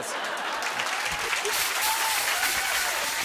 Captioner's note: applause